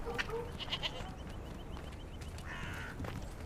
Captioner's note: goat bleats